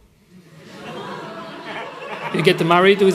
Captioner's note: laughter